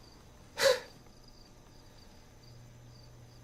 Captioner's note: GUARD chuckles